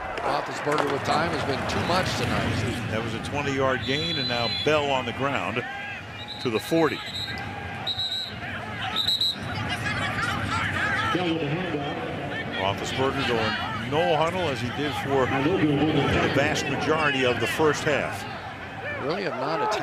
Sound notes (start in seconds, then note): 8.8 whistle; 12.0 pa announcement